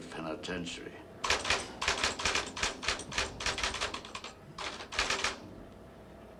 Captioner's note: typewriter keys clacking